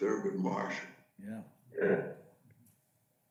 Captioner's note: male Voice